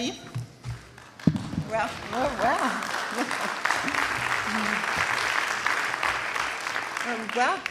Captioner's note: applause